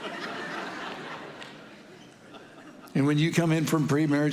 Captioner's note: congregation laughing